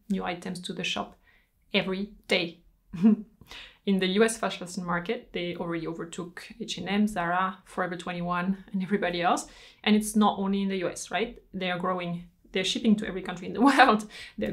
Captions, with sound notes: new items to the shop every day. (chuckles) In the US fashions market, they already overtook H&M, Zara, Forever 21 and everybody else. And it's not only in the US, right? They are growing, they're shipping to every country in the world.